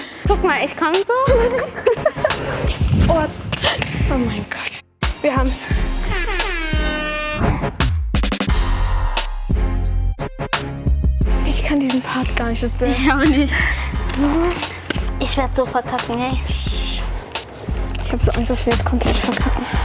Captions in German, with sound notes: Guck mal, ich komm so ... (Lachen) Oah, oh mein Gott! Wir haben's! (Sirene) (Hippe Musik) Ich kann diesen Part gar nicht. - Ich auch nicht. So ... Ich werd so verkacken, ey ... - Psch! Ich hab Angst, dass wir verkacken.